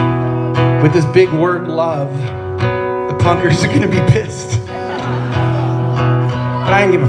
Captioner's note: laughs